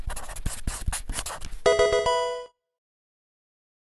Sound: marker scratching; electronic video game chime

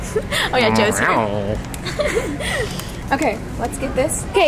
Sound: growling; giggling

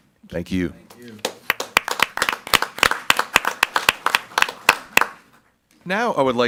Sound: group applauding

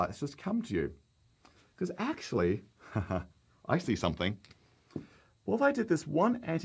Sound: chuckles

